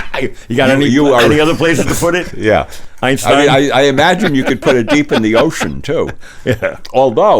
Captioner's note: everyone laughs